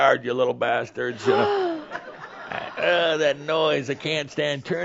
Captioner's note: gasps